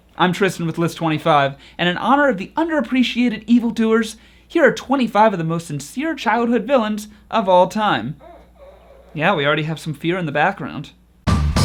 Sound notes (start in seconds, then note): 8.1 baby whines; 11.3 upbeat music